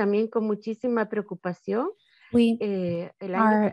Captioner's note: speaking in a foreign language